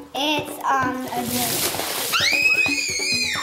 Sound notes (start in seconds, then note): 2.1 screams